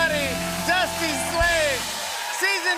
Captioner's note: cheers and applause